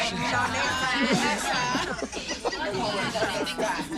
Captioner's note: laughter and chatter